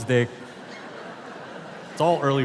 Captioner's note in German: Publikum lacht